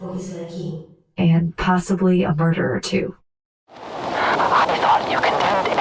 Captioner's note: Graphophone recording